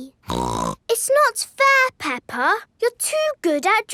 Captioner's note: snorts